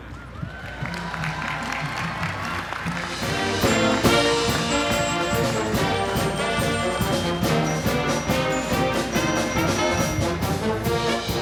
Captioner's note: MUSIC and APPLAUSE